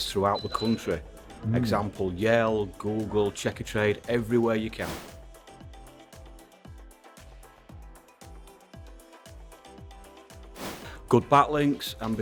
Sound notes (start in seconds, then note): 5.0 abrupt swooshing; 5.0 upbeat music; 10.6 abrupt swooshing